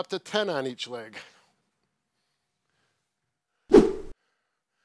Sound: whoosh sounds

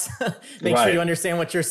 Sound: chuckles

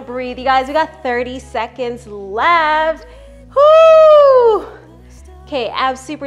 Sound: whooping

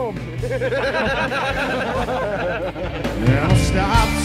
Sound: laughter

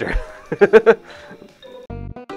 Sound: laughter

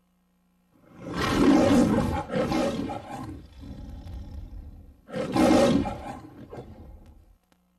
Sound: Leo the Lion roaring, purrs, then roars again

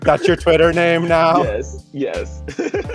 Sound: laughs

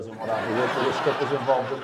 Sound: audience laughs

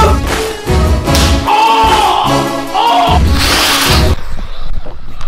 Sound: screams in pain

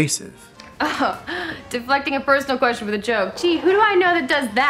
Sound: scoffs

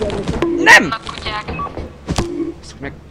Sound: on the radio

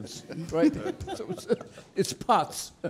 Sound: laughing

